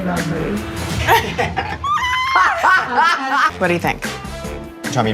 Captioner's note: cast laughing